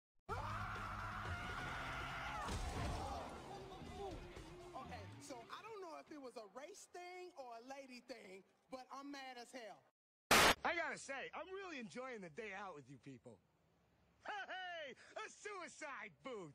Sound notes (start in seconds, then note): 0.3 jumps off the stage, yelling; 2.5 crash; 3.4 oohs and gasps